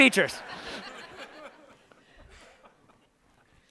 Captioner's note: laughter